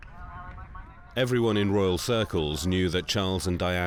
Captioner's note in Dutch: omroeper gedempt spreken